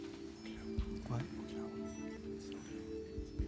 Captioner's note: whispering